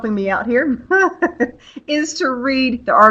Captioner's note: laughs